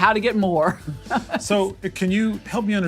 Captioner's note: laugh